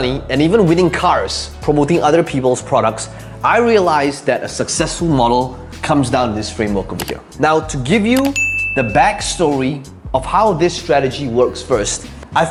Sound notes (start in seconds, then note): 6.9 mouse clicking; 8.2 bell ringing